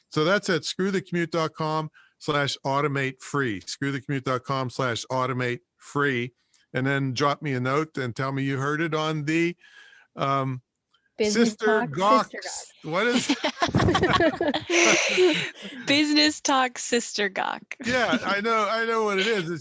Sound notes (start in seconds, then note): 13.0 all laugh